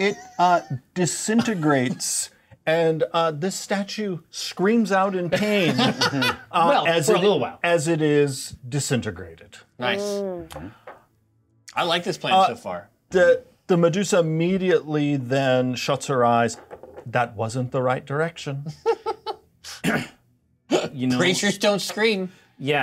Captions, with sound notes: - It disintegrates and this statue screams out in pain. (co-hosts laughing) - Well, for a little while. - As it is disintegrated. - Nice. - I like this plan so far. - The Medusa immediately then shuts her eyes. "That wasn't the right direction." - You know? - Preachers don't scream.